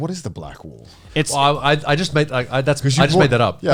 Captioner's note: all laughing